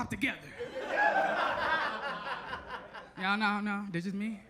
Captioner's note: audience laughs